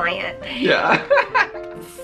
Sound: laughing

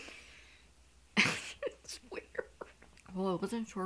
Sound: laughs

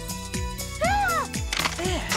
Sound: screaming

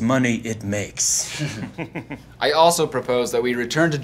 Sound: chuckling

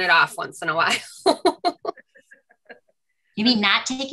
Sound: laughs

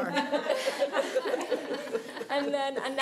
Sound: laughing

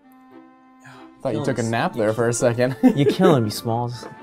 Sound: long pause; laughs

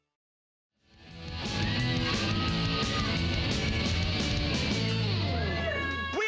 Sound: hard rock music; cheers and applause

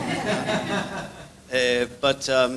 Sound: audience laughs

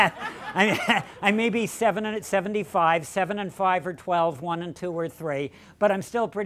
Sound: laughter

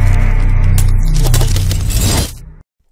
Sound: logo swooshing

